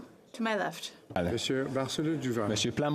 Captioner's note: speaking French